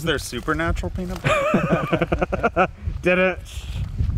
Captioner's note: Josh laughing